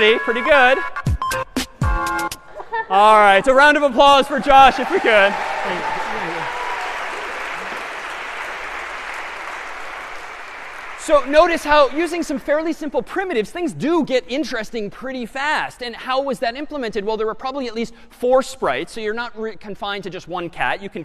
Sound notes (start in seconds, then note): 4.2 applause